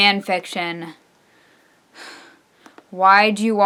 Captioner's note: sigh